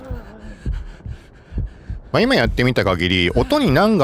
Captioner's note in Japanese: 荒い息